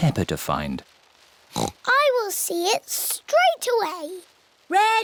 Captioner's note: oinks